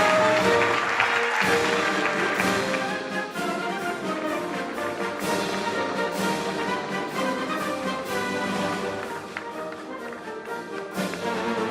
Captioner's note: applause